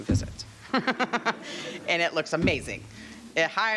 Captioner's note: all laughing